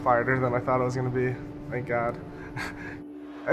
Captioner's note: laughs